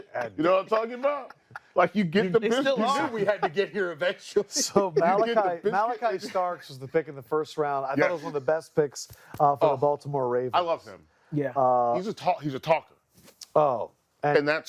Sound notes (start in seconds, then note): 7.2 laughter